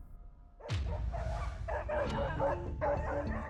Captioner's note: tense music; barking